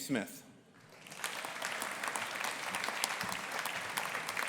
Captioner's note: audience applauding